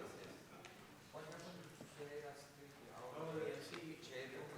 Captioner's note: chattering